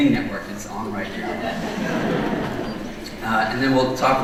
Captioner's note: audience laughing